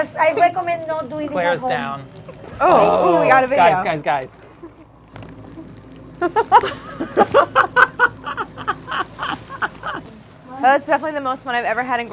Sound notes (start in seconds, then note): 6.2 laughing